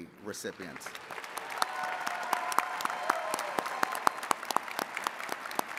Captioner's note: attendees cheering and clapping